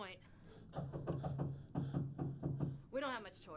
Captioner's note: knocks